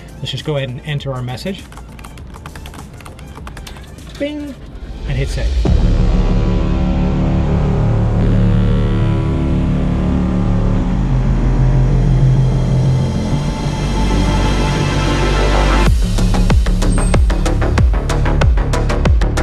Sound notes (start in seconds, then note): 1.8 keyboard clacking; 6.4 dramatic electronic music